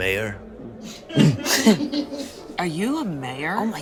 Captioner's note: all laughing